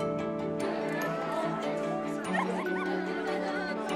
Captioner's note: girls chatter, laugh